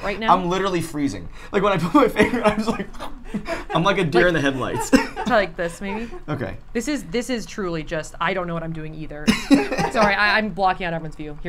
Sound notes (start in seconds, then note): 9.3 all laugh